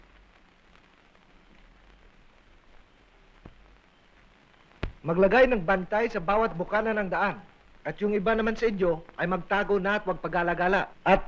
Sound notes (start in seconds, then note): 4.5 non-english speech